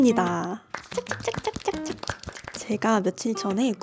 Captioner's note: applause~!!